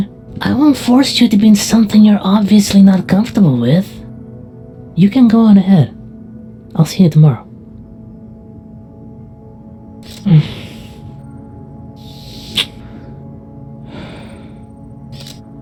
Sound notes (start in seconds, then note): 12.1 Vixen kissing noise; 13.8 Vixen exhales